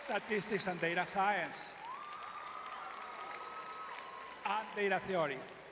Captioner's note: audience cheering; audience cheering